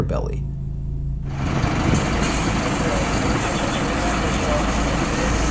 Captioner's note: trunk engine rumbling